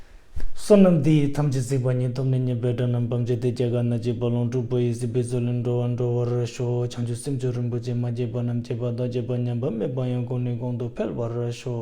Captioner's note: dedication prayer in Tibetan